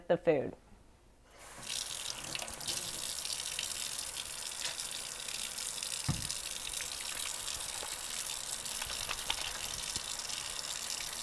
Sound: sound of running water

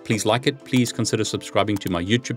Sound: soft music; cursor clicking

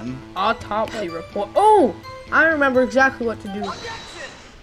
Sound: none

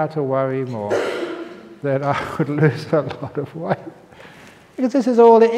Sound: chuckle

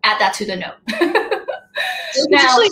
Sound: laughs

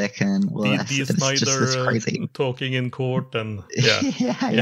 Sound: laughs

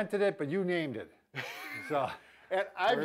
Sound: laughing

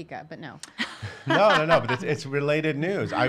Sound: laughing loudly

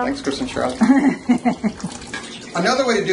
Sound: female laughs

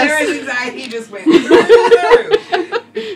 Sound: laughing

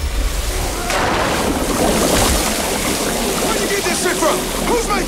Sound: fire sizzling; water splashing; fire whooshing

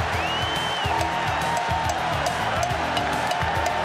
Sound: cowbell clangs

